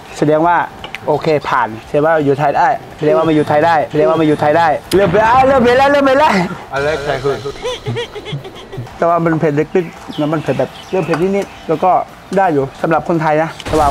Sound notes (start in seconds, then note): 6.5 slow hits